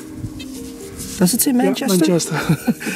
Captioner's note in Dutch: lacht